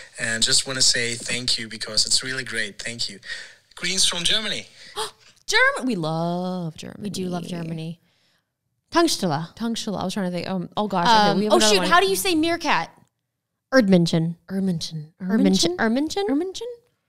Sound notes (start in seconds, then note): 4.8 gasp; 9.5 foreign language; 14.0 foreign language